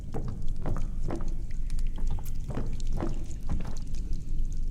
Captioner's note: different footstep sounds